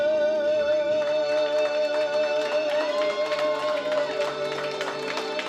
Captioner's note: audience cheering